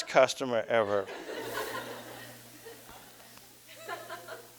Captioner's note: audience: Laughter